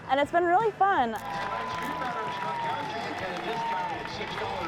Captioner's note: pa chatter